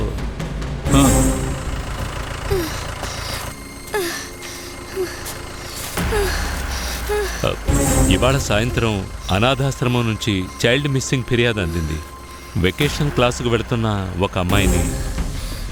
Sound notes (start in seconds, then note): 2.5 groans